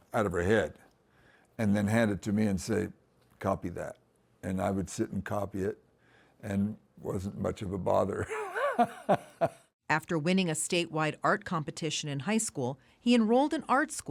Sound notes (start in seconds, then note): 8.2 laughter